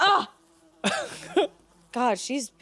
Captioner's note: fly buzzing